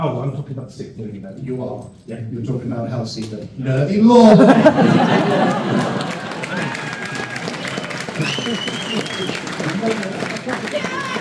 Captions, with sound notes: Oh, I'm talking about sick movie, but you are. You're talking about Hellseater. Nervous! [laughter] [applause]